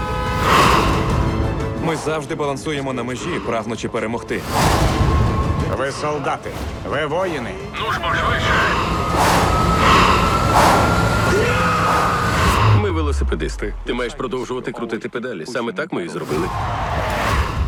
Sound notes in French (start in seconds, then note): 13.6 en anglais